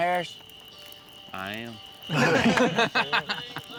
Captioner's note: laughter